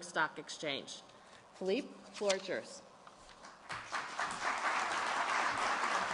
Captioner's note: applause